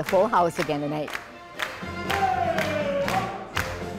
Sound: audience clapping

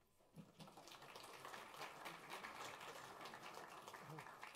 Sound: applause

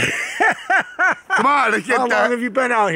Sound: laughs

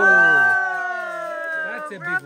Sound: participants cheer

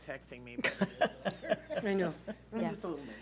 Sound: laughs

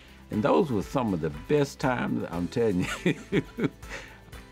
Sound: laughs

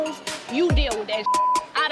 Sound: beep

